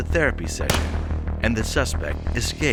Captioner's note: gun firing